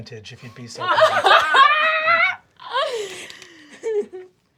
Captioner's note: group laughs